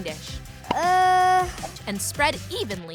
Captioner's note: groaning